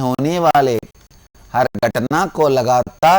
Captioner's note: hindi